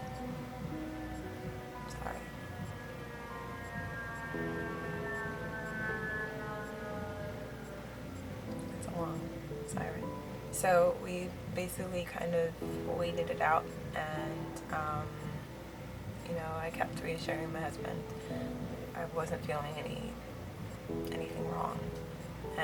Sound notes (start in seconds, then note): 0.3 long siren noise; 3.5 long siren noise